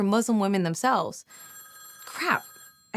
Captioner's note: phone rings